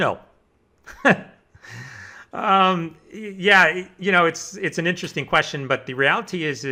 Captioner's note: laughs